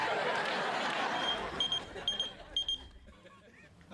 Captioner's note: pager beeps